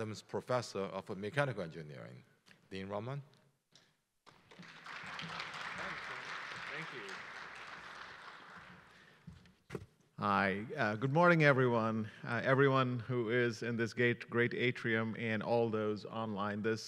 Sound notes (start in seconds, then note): 4.3 audience applauding